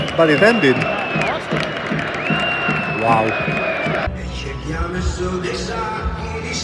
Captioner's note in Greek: Χειροκρότημα